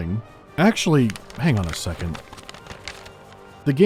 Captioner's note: flips pages